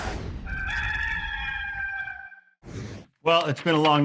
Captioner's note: rooster crowing